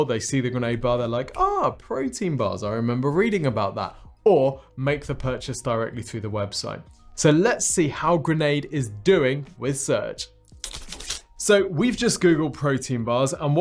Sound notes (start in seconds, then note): 10.5 hands rubbing